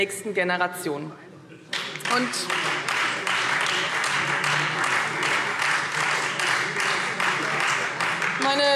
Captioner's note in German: Beifall Freie Demokraten und SPD